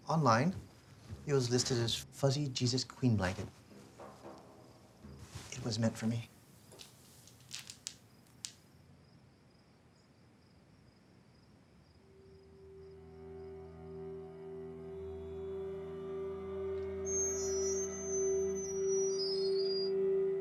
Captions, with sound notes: - Online, it was listed as, Fuzzy Jesus Queen Blanket, it was meant for me. (beads clicking) (mysterious music) (gate creaking)